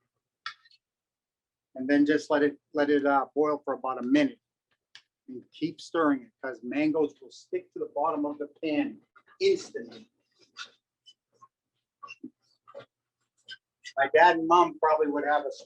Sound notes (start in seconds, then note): 0.6 silence